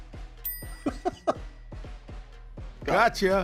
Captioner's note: laughs